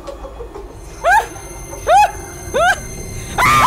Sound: yelling

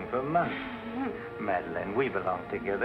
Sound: chuckle

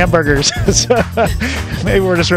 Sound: laughs

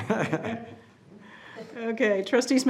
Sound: group laughing

